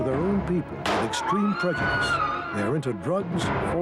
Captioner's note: gunfire popping